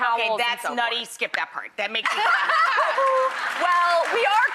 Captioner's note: laughing